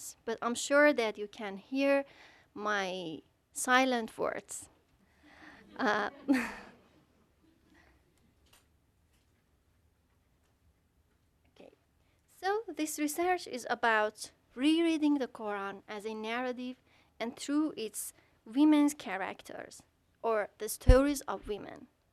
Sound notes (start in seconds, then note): 5.6 audience chuckling